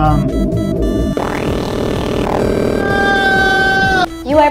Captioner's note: screaming